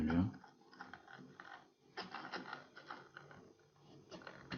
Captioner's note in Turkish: volan makara sesi